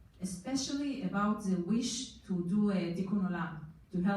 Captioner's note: foreign language